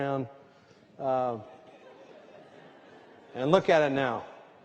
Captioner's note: laughter